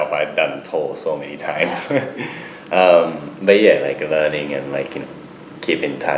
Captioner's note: laughs